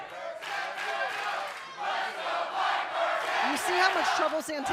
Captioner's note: fans chanting